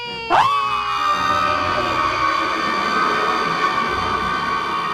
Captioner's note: screams